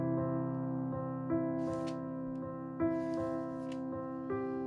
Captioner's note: rustling